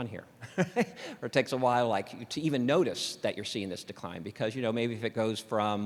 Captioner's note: laughter